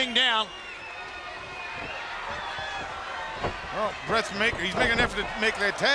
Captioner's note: crowd chatter